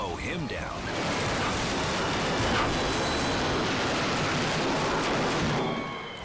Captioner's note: helicopter crashing